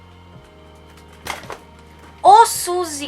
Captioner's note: thud